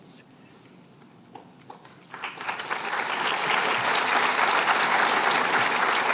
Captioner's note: applause